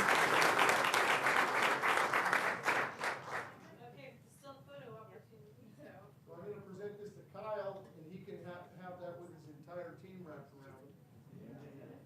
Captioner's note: applause